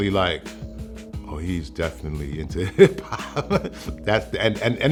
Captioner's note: laughs